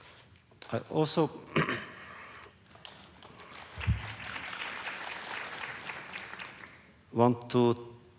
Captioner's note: applause